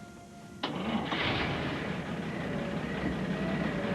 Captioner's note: engine turning over